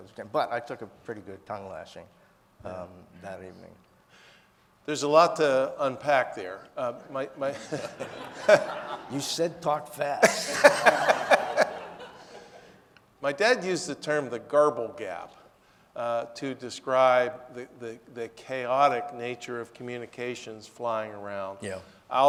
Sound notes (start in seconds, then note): 7.4 audience laughing; 10.2 laughing; 10.2 audience laughing